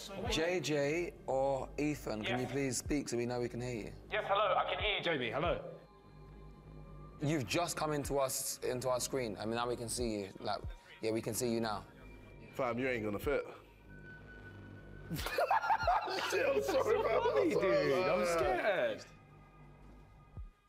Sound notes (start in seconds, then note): 15.1 laughs